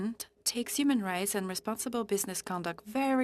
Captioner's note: speaking French